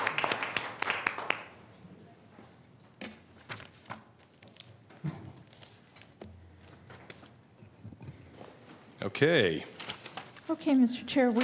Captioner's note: applause